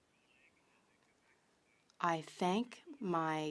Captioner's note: speaking French